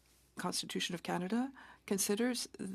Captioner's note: speaking French